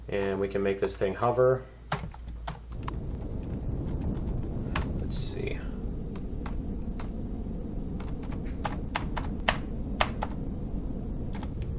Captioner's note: keystrokes